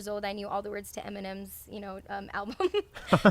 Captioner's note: laughs